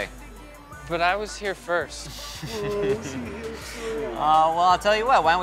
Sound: laughter

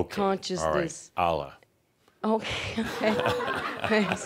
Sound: some chuckles

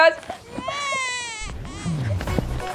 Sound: baby is crying

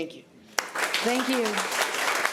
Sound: applause

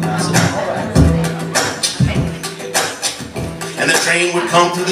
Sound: vocal percussion

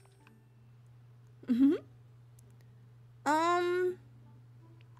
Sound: laughs

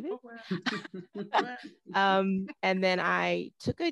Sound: laughing

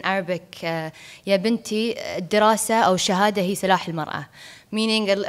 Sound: speaking foreign language

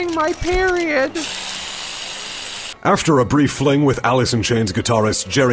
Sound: spraying sounds

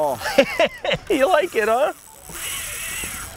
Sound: laughs

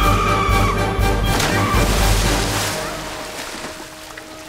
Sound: splashing

